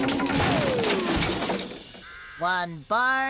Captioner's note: crash!; wood Creaking